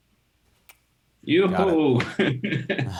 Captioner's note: cheers; both laughing